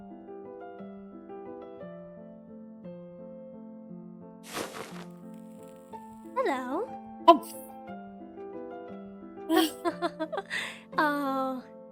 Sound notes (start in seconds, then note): 9.5 ROSE laughs; 10.3 STONE sighs